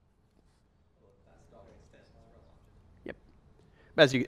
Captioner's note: voiceover